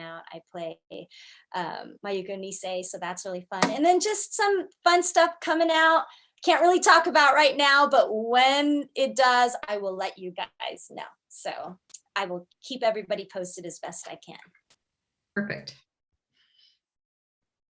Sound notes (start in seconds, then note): none